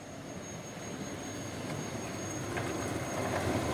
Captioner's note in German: Bremsen quietschen